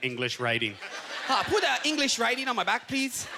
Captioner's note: in Chinese accent